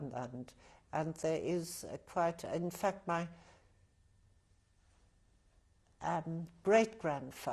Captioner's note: pauses for 3 seconds